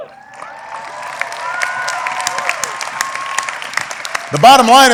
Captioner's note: applause